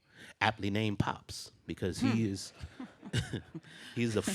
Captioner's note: scoffs